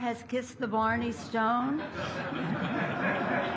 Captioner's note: laughter